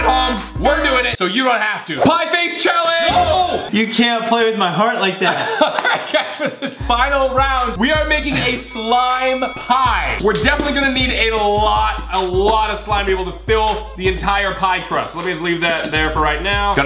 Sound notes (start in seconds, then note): 1.9 screams; 5.2 laughs